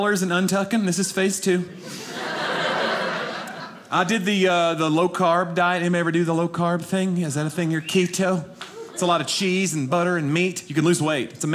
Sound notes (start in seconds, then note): 1.8 audience laughing